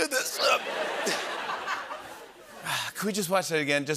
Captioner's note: laughter